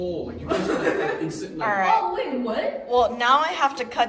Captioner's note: laughter